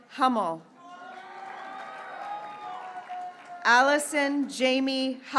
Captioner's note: graduates cheering